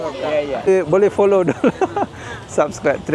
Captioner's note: laugh